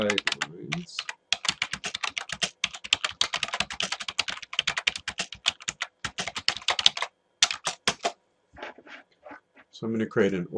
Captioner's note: typing